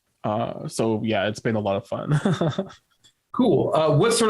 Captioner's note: chuckles